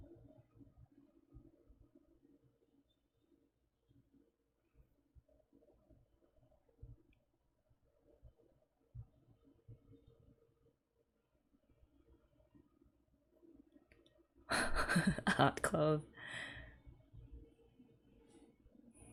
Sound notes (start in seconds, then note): 14.5 laughs